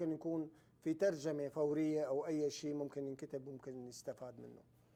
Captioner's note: speaking Arabic